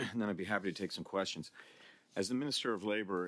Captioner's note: speaking French